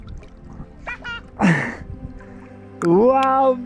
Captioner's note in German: lacht